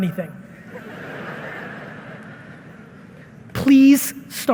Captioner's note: audience laughing